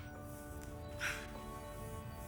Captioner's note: laughs